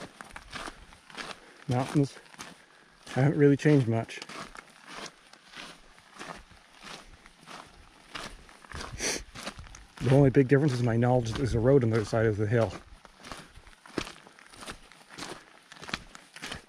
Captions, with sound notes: Mountains haven't really changed much. (footsteps crunching) The only big difference, is my knowledge that there's a road on the other side of the hill.